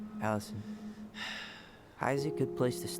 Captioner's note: sighs